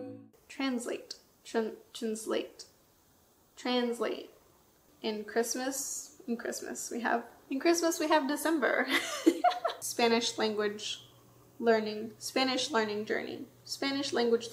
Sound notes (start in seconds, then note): 9.1 laughs